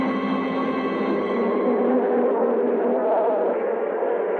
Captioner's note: bees buzzing